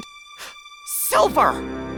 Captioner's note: gasp